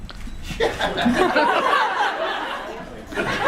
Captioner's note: audience laughs; laughs